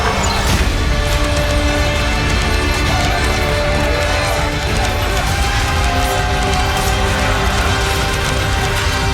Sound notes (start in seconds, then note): 1.0 metal clanging against metal